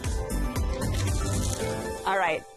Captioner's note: crunches